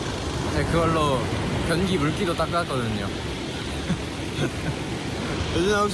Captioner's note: laughs